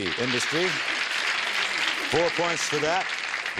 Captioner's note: applause